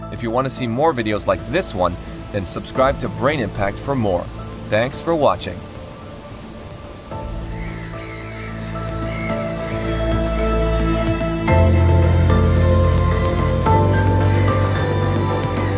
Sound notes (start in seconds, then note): 6.7 upbeat music; 6.7 water burbling